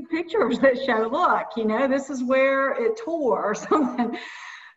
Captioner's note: laughing